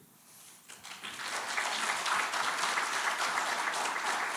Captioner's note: audience applauding